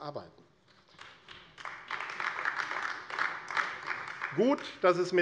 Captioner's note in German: Beifall AfD